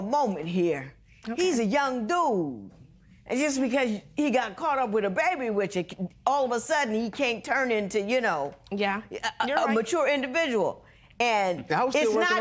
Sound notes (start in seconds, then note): none